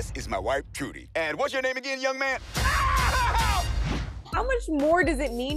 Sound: screams in pain

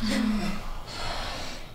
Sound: gasps

